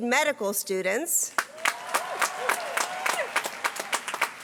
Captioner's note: applause